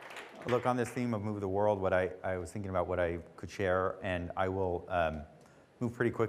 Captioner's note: applause